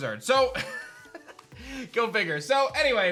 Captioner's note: chuckles